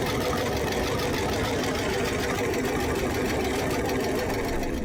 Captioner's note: engine running